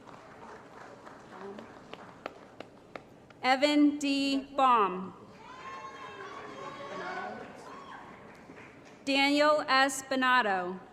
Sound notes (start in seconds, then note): 0.0 applause; 5.6 applause & Cheering